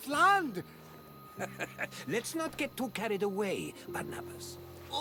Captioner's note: laughs